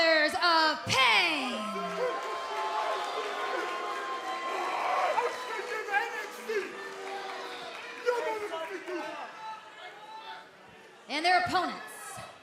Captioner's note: crowd cheering